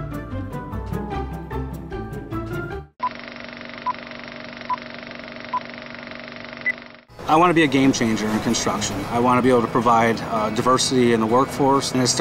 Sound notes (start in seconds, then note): 0.0 playful music; 2.7 beeping tones; 3.0 film rolling